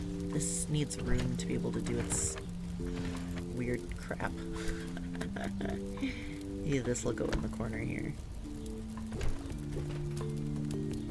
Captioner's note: laughs